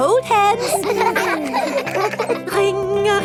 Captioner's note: giggling